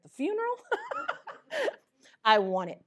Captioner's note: laughter